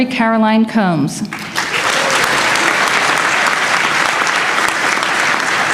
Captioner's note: applause